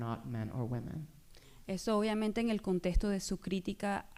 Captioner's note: speaking spanish